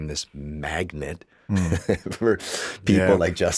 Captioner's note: chuckles